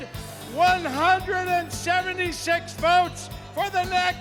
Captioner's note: cheers and applause